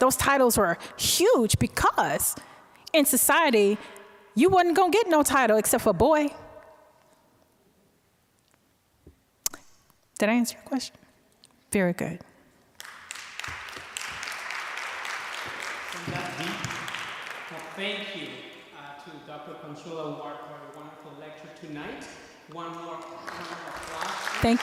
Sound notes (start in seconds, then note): 12.8 applause; 22.5 applause